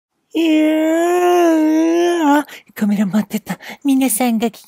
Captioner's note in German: Gähnen